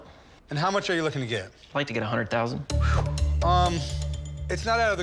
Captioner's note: whistles